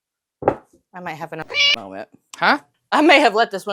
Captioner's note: meow